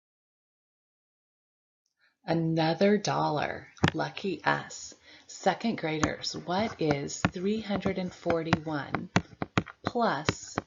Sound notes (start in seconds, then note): 6.0 card rustles